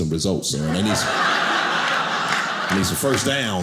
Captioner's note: audience laughing